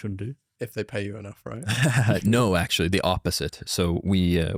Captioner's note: laughs